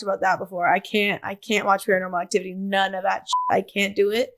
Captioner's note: beep